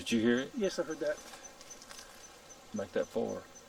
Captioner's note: knock whacks distantly